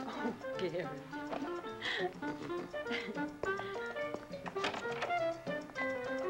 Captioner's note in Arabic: يضحكان; موسيقى مشرقة